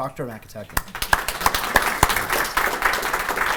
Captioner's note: applause